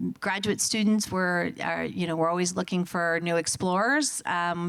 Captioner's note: none